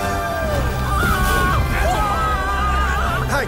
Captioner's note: yago screams; sailors yell